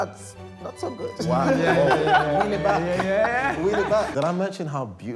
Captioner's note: group laughs